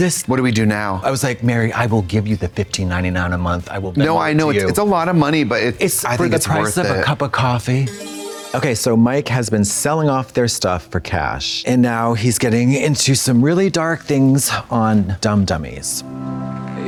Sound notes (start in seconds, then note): 7.8 bright chime